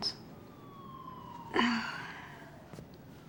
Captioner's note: groans